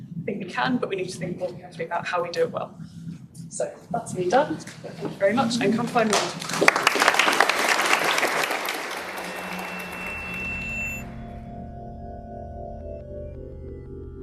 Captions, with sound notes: I think we can, but we need to think more carefully about how we do it well. So, that's me done. Thank you very much, and come find me. [Applause] [Drone-like music]